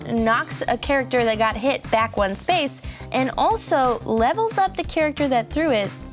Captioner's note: none